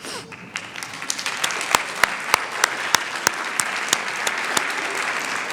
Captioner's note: applause